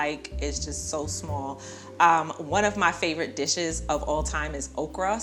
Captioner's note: none